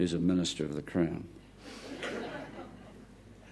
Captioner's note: audience laughter